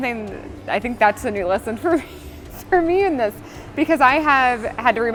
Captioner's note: laughing